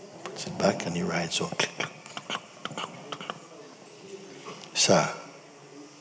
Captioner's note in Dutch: klik klak